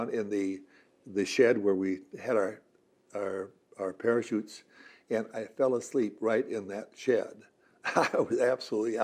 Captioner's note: laughs